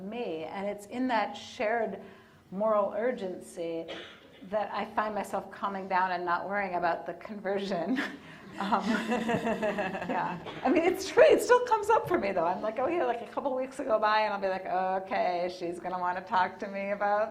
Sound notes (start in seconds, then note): 8.5 laughing